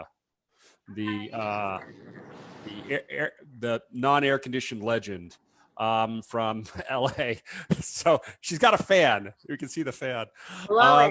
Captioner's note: laughs